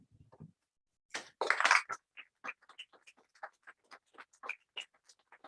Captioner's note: applause